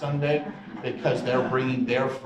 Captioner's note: audience chuckles